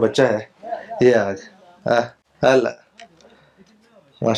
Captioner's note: Arabic